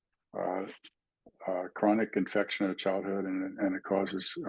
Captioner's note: indistinct chatting